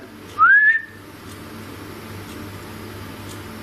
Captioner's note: whistles